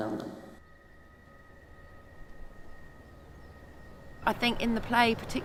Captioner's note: birds chirping